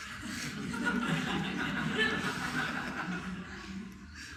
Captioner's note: audience chuckling